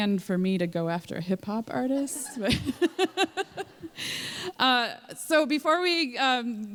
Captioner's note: laughter